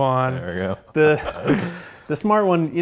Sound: laughs

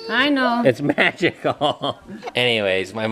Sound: laughs

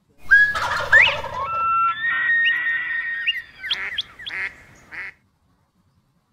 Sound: bird calls

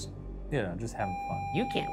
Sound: video game screen beeping

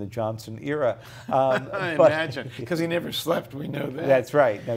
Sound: laughs

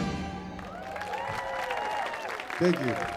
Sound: audience cheering; audience clapping

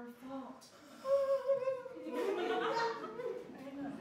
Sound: Peter continues sobbing

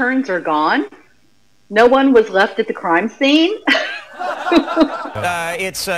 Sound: laughs

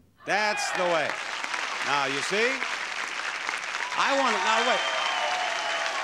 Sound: audience applauds

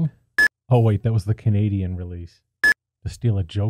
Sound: beep; beep

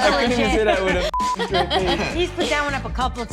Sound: group laughs; beep

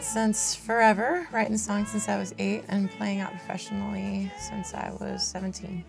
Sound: speaking

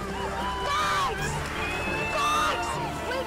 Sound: shouting

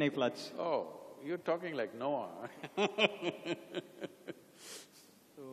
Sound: laughs

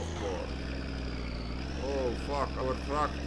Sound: engine straining

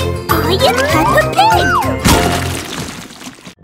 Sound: splashing

